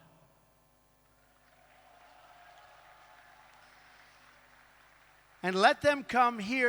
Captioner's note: applause